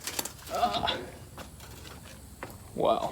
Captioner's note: groaning